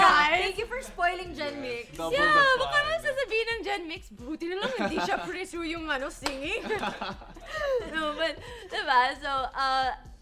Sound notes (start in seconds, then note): 6.4 laughter